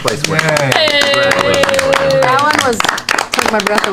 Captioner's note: cheering